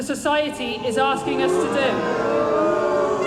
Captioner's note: booing